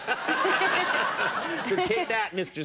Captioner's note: everyone laughs